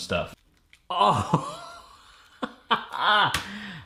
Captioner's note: laughs